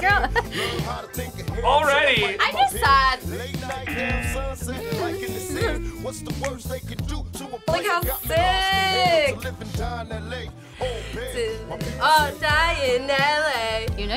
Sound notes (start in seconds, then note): 0.1 chuckles; 3.8 buzzer buzzing